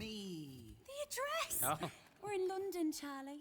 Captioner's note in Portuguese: Charlie laughs